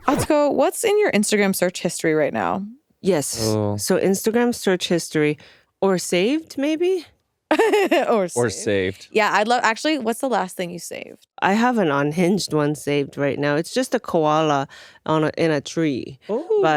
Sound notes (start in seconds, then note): 7.6 laughs